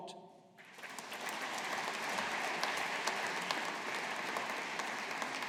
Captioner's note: audience applauding